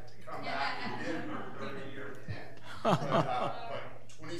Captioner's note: laughing